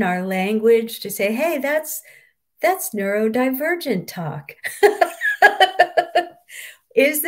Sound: laughs

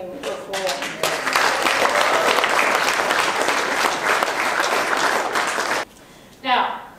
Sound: audience clapping

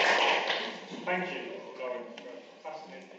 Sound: voiceover

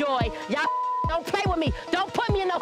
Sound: beep

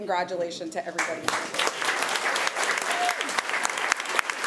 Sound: applause

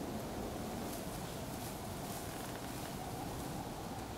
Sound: wind blowing

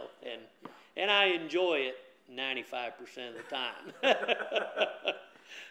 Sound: laughs

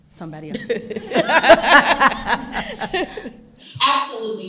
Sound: all laughing

